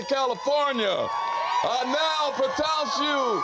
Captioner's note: guests cheering